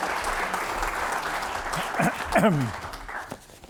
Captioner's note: applause